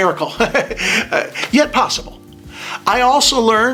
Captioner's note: chuckles